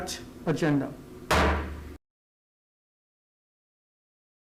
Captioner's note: gavel slamming